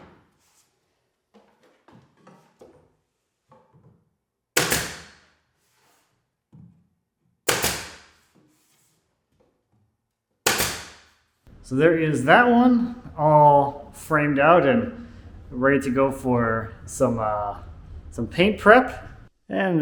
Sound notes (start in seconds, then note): 0.0 board clanks; 4.5 gun nailing